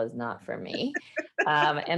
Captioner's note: laughs